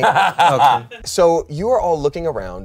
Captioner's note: laughs